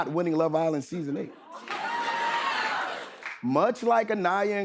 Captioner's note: cheering